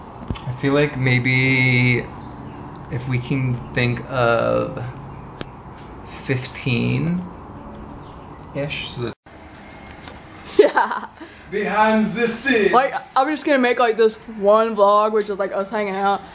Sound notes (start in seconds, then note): 10.5 laughs; 11.7 with german accent